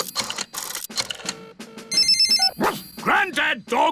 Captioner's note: line rings; barks